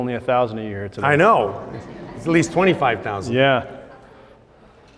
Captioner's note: laughs